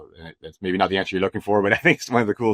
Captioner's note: laughs